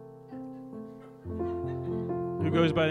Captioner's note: piano music; audience laughs